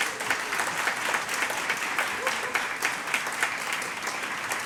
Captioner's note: audience applauds